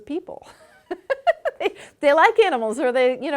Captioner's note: laughing